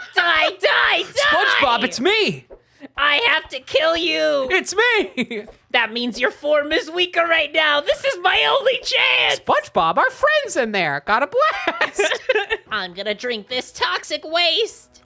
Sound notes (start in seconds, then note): 0.4 Spongebob voice; 5.0 laughing; 5.8 Spongebob voice; 12.8 Spongebob voice